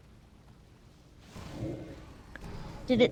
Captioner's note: roaring